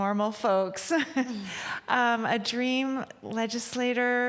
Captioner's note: laughter